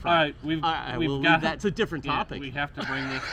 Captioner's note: laughs